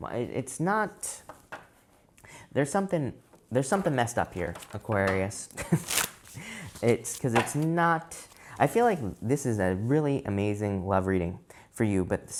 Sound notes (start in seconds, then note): 5.5 chuckles